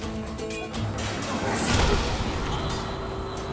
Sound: Kılıç sesleri

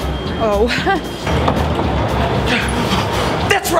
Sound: laughs; security guard gasps

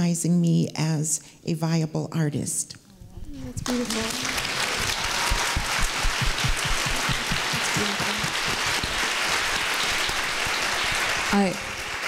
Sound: applause

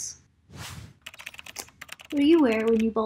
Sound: keyboard clicking

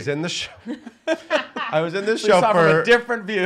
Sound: laughing

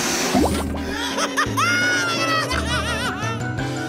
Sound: chuckles

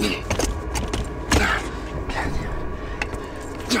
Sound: groans

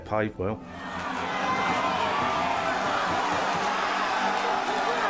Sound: crowd cheering

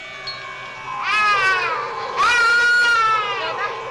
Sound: boy crying

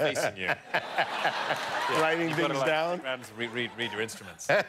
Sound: laughter

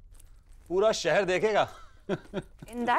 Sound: giggling

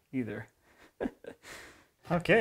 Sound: laughing

